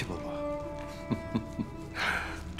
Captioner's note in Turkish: Gülme sesi